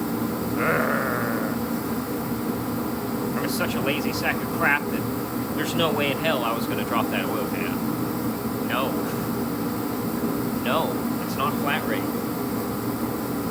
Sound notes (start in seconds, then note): 0.5 growl